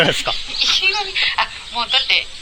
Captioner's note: laughs